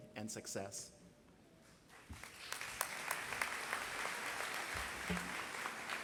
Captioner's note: applause